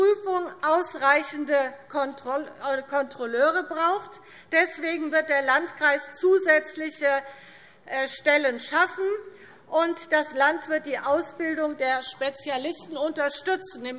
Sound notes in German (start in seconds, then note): none